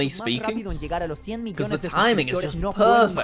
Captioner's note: interpreter speaking Spanish